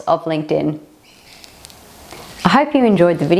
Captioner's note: birds chirping